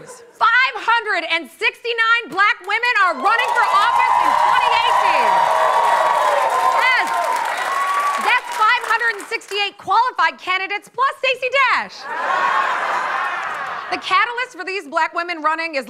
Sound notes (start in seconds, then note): 5.4 cheering and applause; 12.0 laughter